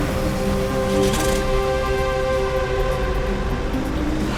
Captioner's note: engine rumbling; suspenseful music